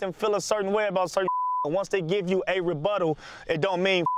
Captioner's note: beeps; beeps